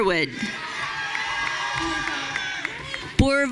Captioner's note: audience cheering